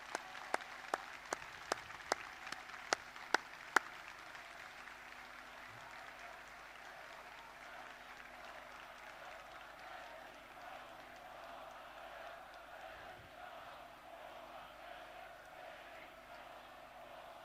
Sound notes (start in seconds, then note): 0.1 applause; 9.8 chanting